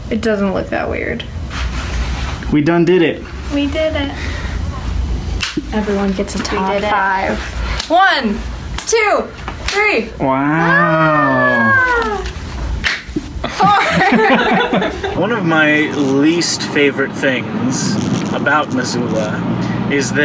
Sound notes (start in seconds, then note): 13.4 all laugh; 13.4 makes a happy sound